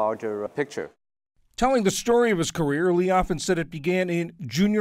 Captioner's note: voice-over